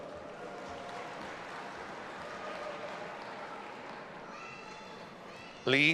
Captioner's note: audience applauding and cheering